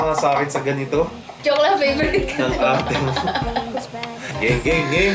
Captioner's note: laughs